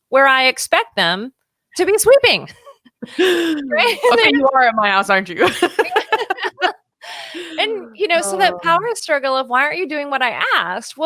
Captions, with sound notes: where I expect them to be sweeping. - I think you are at my house, aren't you? (laughing) - So that power struggle of, "Why aren't you doing what I asked?"